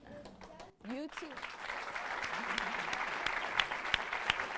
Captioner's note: audience claps